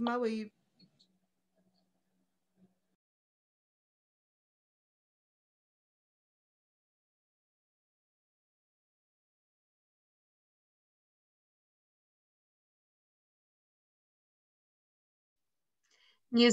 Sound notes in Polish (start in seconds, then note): 0.7 cisza